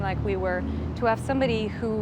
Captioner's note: cars passing